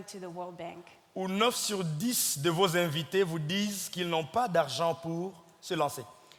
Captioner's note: speaking in French